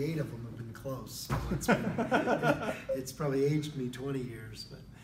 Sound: laugh

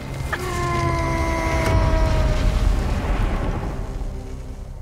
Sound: demon shouting

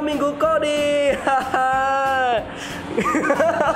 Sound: awkward laugh

